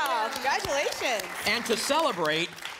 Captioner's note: applause